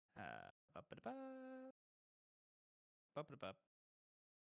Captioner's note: chittering